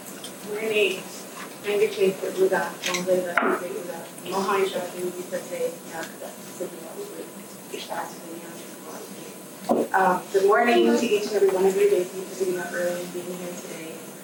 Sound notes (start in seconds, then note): 1.5 speaking in native language